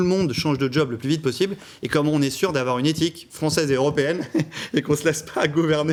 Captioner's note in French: rires